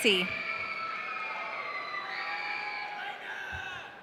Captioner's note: audience cheering